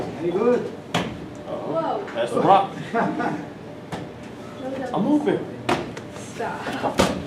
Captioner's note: laughs